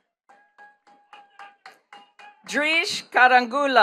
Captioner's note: attendees clapping